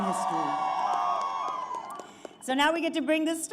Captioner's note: applause